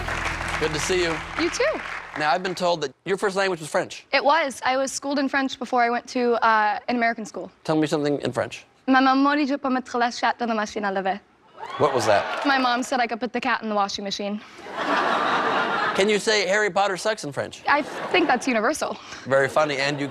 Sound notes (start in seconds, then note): 12.9 speaking French